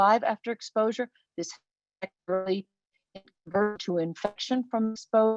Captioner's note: web-call distortion